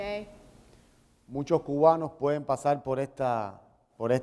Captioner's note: speaking in Spanish